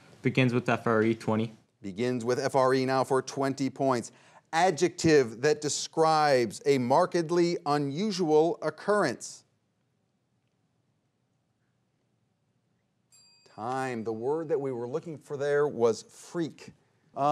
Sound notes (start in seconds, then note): 13.1 bell dings